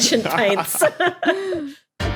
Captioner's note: group laughing